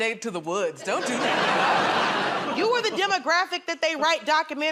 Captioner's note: laughter